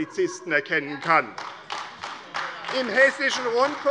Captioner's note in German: Beifall AfD - Lachen SPD und DIE LINKE